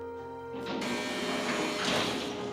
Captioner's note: buzzing